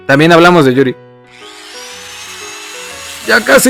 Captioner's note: work sound